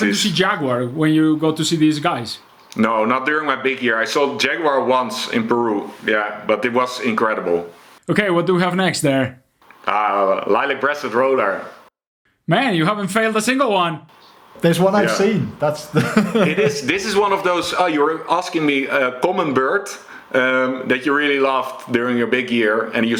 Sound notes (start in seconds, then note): 15.7 laughs